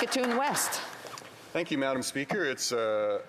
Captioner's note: some Applause